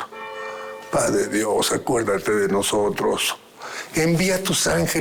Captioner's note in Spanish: Campanadas